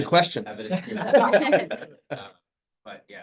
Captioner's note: laughter